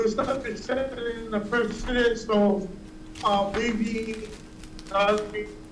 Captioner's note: mic cutting in and out